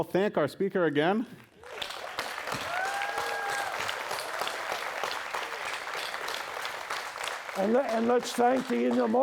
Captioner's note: applause